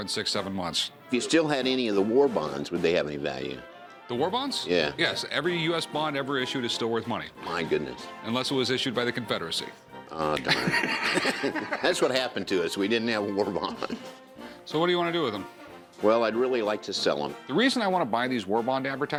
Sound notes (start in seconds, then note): 10.4 laughter